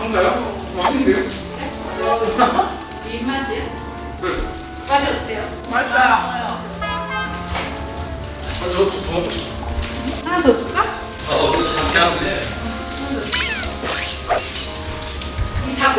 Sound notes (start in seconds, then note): 11.4 laughing at the flavor